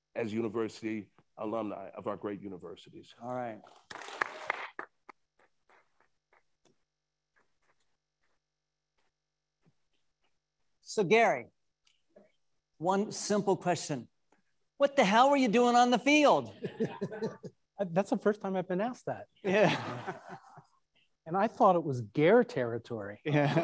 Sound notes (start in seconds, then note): 3.7 attendees applauding; 16.5 attendees laughing; 19.4 attendees laughing